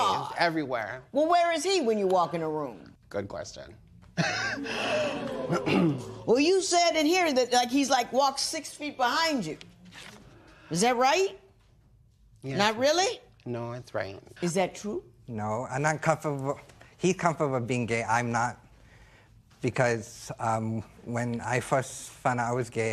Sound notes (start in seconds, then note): 4.1 chuckles; 4.5 spectators Ooh